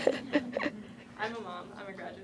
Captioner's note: voiceover